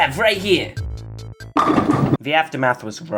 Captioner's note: bowling Pin knock over sound effect